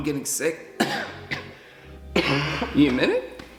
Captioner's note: big cough; cough